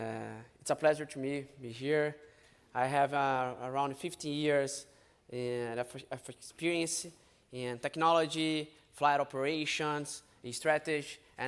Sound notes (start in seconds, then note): none